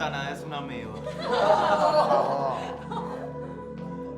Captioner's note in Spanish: Risas